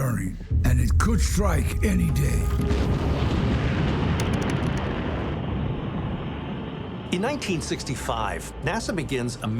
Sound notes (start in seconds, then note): 2.2 rocket whooshing; 2.4 tense music